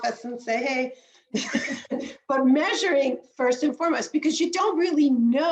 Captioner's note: laughs